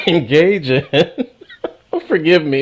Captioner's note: laughs